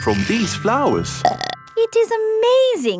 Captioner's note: burps